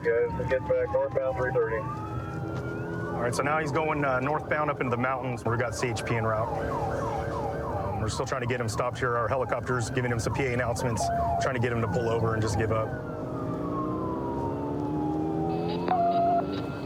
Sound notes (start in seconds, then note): 13.1 siren blaring